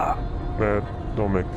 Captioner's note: Ned groans